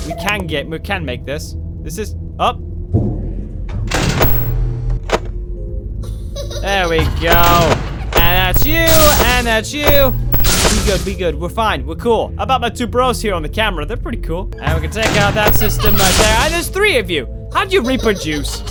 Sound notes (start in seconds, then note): 3.9 slams vent door